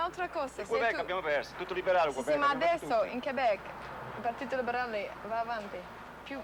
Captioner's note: speaking Italian